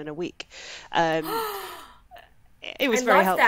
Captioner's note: gasps